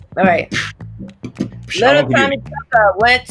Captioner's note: beatboxes